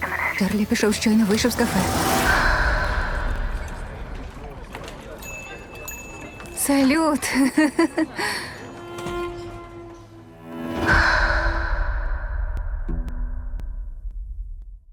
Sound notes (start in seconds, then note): 5.1 bell jingles; 7.2 chuckles